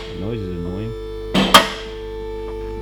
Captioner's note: car lifter clicks